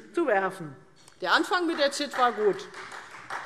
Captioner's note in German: Beifall Freie Demokraten